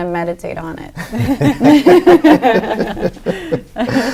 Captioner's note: laughing